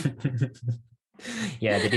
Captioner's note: laughs